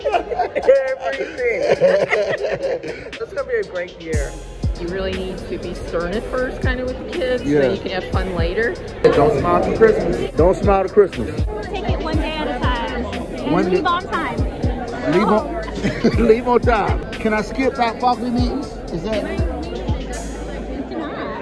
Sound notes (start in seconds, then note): 0.0 laughs